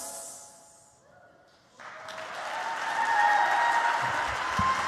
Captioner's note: applause